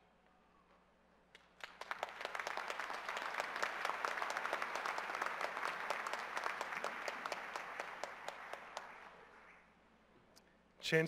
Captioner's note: applause